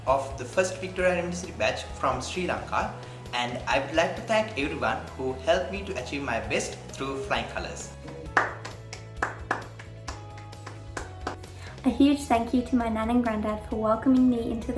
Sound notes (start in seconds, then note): 8.0 clapping